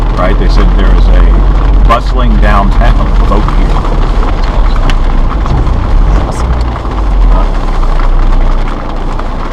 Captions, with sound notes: Right, they said there was a bustling downtown folk here. (faintly speaking)